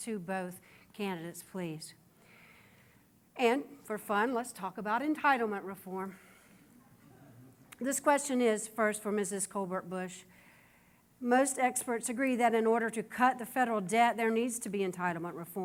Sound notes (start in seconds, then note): none